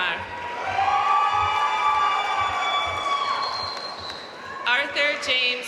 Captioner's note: audience cheering and applauding